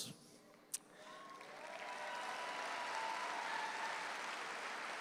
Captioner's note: audience applauds